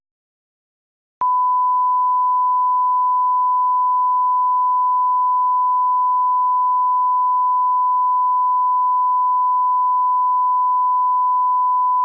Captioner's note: 1KHz Tone